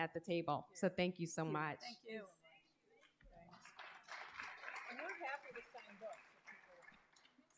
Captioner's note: applause